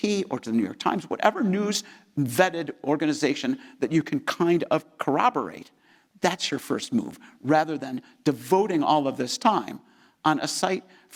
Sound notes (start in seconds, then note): none